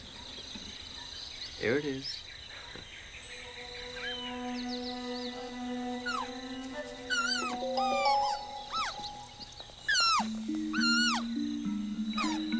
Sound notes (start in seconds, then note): 5.0 squeaking